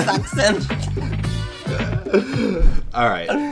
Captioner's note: laughing